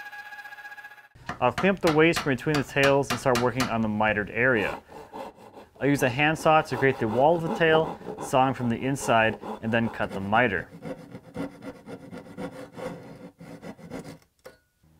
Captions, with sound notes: I'll clean up the waste from between the tails, and start working on the mitered area. (saw zips) I'll use a hand saw to create the wall detail, sawing from the inside, and then cut the miter. (saw zips)